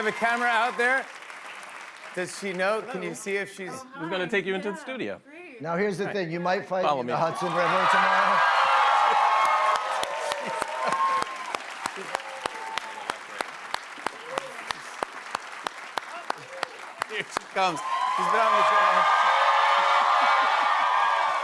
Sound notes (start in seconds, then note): 9.2 cheers and applause; 19.0 cheers and applause